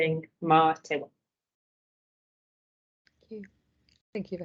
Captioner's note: speaking in te reo Maori